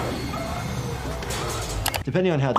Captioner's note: metal clanks